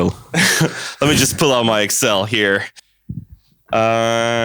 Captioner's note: laughs